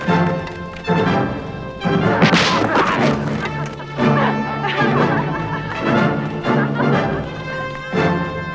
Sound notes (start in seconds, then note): 2.5 men groaning; 3.7 women laughing